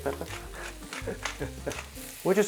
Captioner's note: chuckles